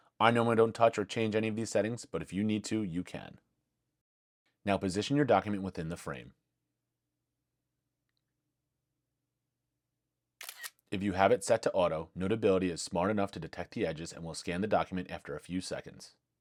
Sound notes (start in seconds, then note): 10.4 camera Click